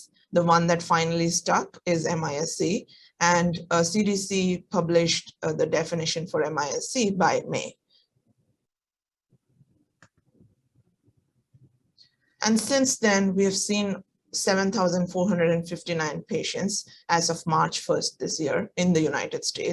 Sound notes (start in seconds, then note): 8.0 silence